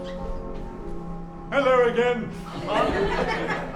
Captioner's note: laughs